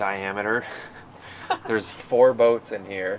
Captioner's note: laughing